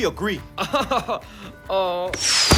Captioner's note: chuckles; groans